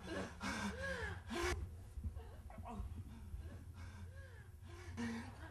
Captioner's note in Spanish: jadeo